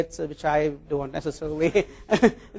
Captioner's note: laugh